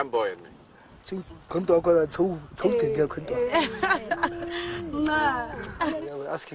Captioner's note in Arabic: التحدث بلغة أجنبية